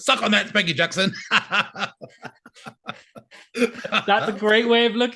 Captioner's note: laughing